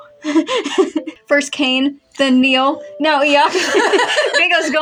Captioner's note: laugh; laugh